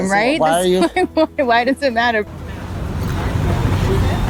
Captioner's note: laughs